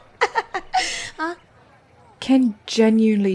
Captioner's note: laughs